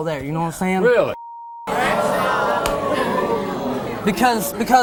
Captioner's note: audience booing